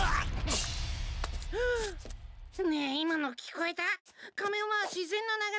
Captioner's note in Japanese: 息をのむ音